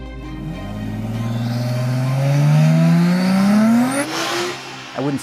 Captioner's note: engine revving